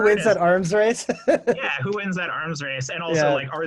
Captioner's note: chuckles